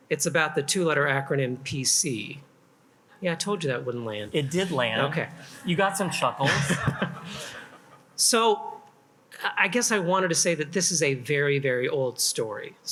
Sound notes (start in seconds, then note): 6.7 attendees laugh; 6.7 laughs